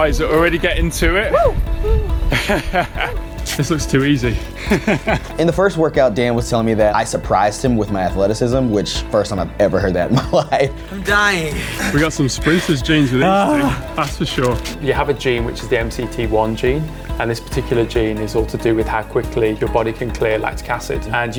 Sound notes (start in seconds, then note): 1.3 whoops; 4.2 laughing; 4.3 laughs